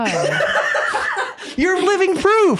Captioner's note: laughing